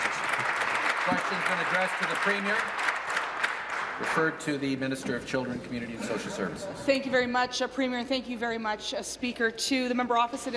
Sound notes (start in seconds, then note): 0.0 applause